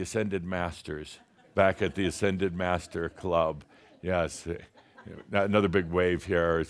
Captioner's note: more chuckles, as audience waves to cameras